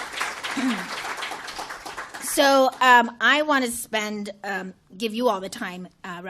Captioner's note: applause